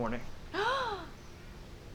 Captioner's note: Sherlock gasps